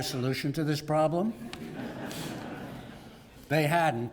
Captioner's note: laugh